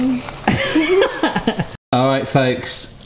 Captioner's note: laughing